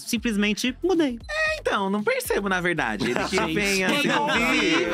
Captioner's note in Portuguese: risos